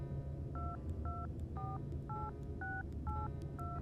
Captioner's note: keypad beeping